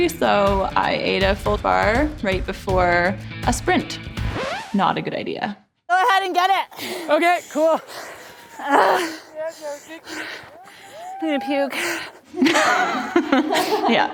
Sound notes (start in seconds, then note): 9.5 gasping; 12.4 laughing